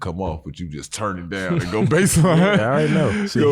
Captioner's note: laughs